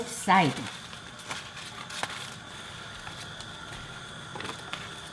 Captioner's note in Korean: 가스렌지 불 켜는 소리